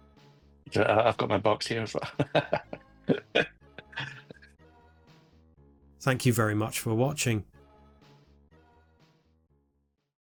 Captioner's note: laughs